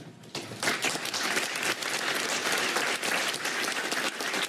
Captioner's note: applause